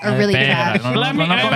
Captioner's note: speaking Spanish